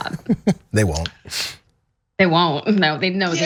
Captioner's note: laugh